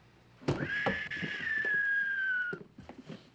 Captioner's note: whistling